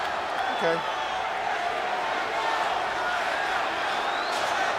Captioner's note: audience cheering